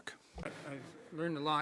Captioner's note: speaking French